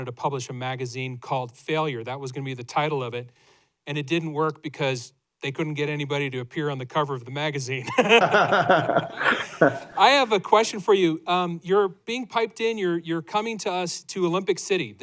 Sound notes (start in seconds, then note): 7.8 laughter